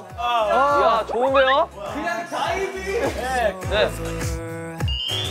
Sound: extremely excited

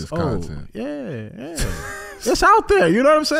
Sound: Iman laughing

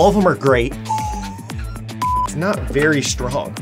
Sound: beeping; wheezing

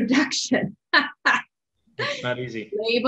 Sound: laughs

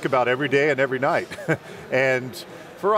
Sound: chuckles

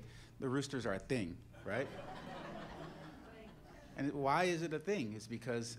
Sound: laughter

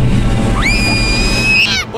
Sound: screams

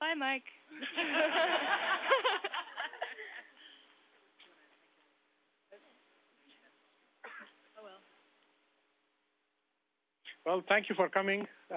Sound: laughter

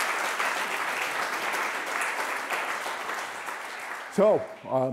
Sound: applause

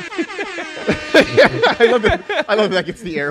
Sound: laughs

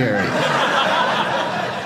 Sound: audience laughing

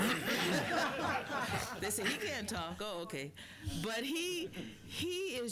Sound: laughter

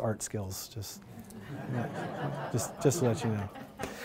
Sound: laughter

